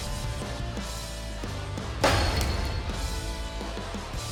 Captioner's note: clanking